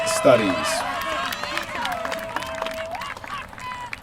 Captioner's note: applause